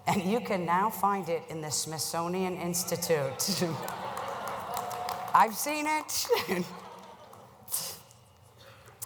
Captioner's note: applause